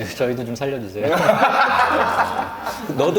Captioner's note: giggling